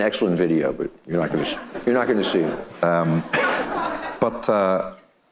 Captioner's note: audience laughing